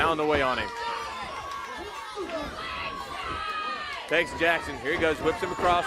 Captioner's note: crowd cheering